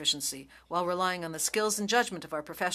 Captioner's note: speaking French